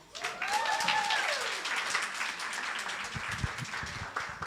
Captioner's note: audience applauding